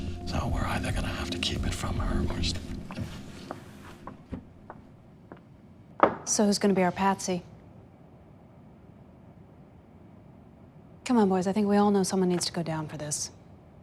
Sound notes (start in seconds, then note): 3.8 heels click